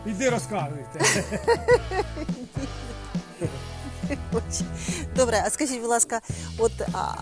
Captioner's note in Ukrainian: сміх